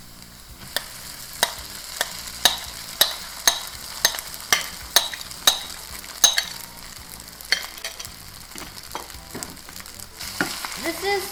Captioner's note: frying rice